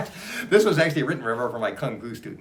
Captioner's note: laughs